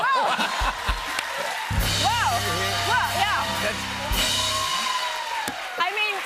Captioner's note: cheers and applause